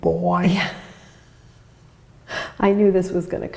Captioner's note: laughs